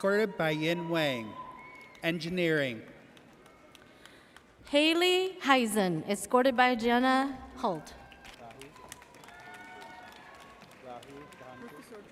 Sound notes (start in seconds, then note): 8.0 audience cheers